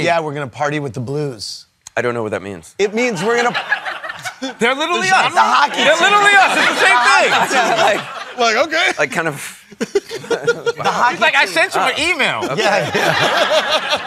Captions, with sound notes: Yeah. We're going to party with the Blues. - I don't know what that means. - It means we're going to-- [LAUGHTER] They're literally us. - The hockey team. - They're literally us. It's the same thing. [LAUGHTER] Like, OK. I kind of-- [LAUGHING] Like, I sent you an email. [LAUGHTER]